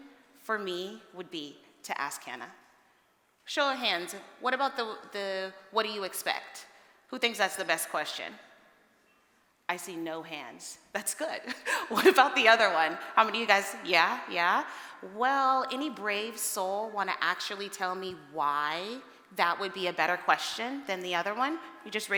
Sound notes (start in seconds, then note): 11.6 laughs